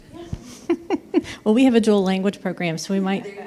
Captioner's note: laughs